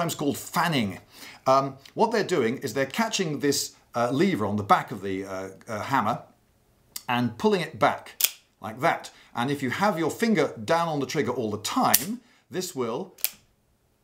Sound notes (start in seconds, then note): 8.0 click; 13.2 click